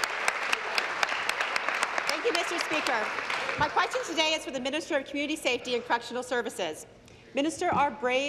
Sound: applause

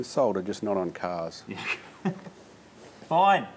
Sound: laughs

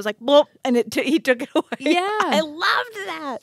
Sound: laughs

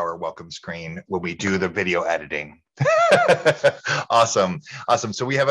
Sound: laughing

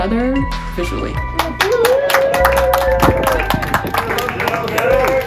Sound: applause

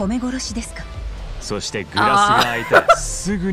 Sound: chuckles

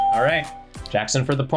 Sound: bell rings

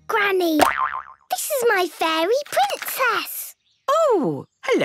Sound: boing!

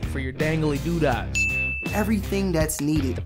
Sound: dinging

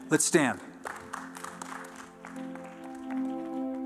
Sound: applause

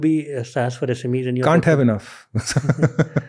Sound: chuckles

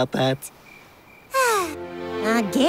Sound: sighing

